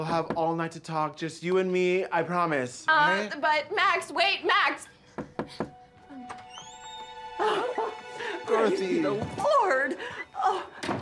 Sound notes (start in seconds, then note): 5.2 Kyle knocks; 7.4 Dorothy chuckles